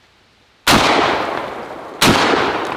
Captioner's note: gunshots